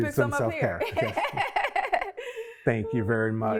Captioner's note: laughs